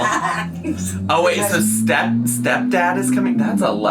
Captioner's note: engine rumbling